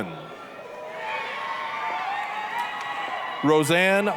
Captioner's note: applause, cheering